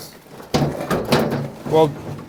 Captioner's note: metal banging